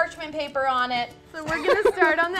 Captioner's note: laughs